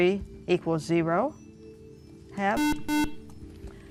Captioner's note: beeping